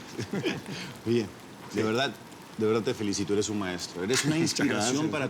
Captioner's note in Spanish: Ríe